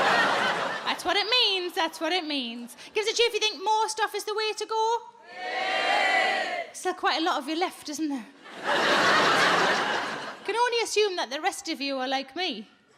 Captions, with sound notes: That's what it means, that's what it means. Give us a cheer if you think most off is the way to go. (audience cheers) Still quite a lot of you left, isn't there? (audience laughs) Can only assume that the rest of you are like me.